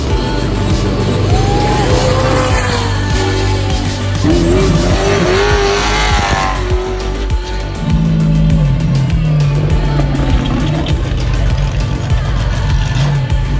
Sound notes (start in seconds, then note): 1.1 fans cheering